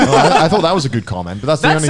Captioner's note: laughing